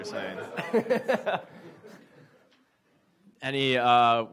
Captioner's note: audience laughs